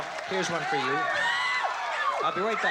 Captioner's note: screams